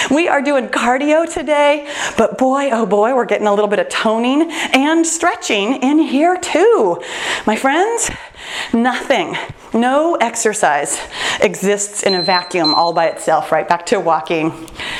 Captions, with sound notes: We are doing cardio today, but boy oh boy, we're getting a little bit of toning and stretching in here too. My friends, nothing, no exercise exists (timer beeps) in a vacuum, all by itself. Right back to walking.